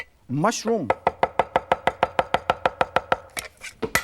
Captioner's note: knife tapping